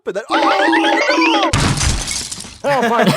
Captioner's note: crash